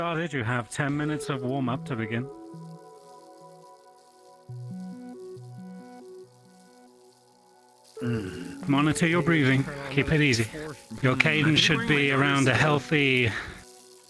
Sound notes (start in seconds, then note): 3.2 bike chain clicking; 3.2 electronic music plays